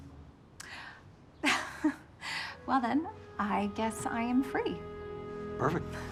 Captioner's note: laughing